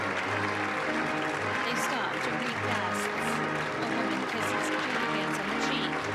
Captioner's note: applause